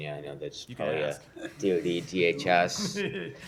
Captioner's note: laughter